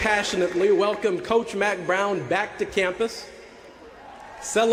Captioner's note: applause